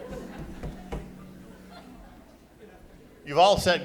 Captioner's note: laughing